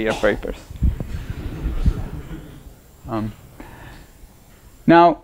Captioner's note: laughter